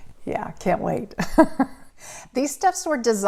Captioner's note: laughs; laughs